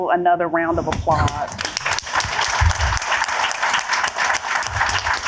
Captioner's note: applause